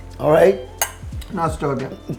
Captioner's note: glasses clink